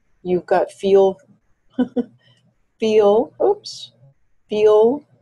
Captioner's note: chuckles